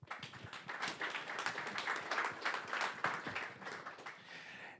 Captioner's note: audience applauds